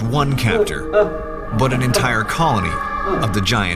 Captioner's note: man whimpering